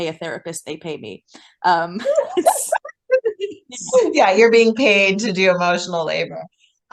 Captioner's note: laughing